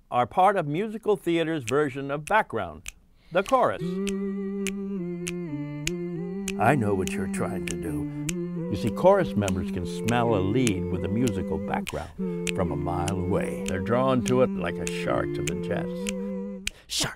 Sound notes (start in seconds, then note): 3.8 humming